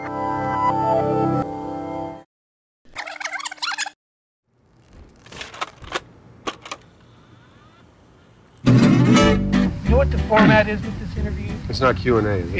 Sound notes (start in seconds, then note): 0.1 title music; 2.9 tape rewinds; 8.8 upbeat music